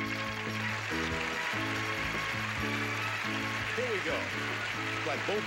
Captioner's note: audience applauding